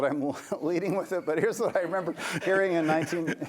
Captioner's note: laughter